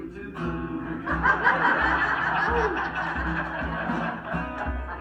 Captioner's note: crowd laughs